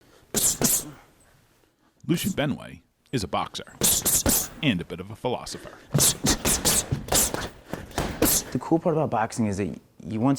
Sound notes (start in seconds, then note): 5.9 hissing through teeth with each punch